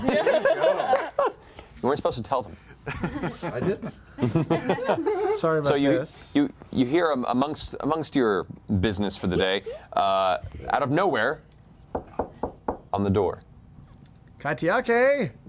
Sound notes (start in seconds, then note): 11.9 knocking